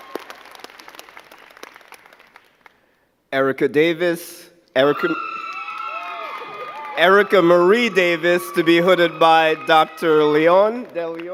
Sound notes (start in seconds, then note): 6.6 crowd cheering